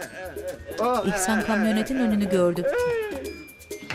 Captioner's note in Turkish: Ağlama sesi